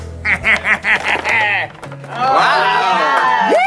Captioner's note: laughs